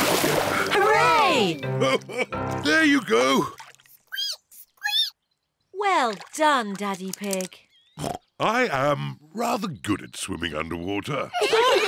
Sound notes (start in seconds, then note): 1.8 laughs; 4.2 squeaks; 8.0 oinks